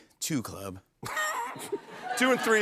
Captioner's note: laughter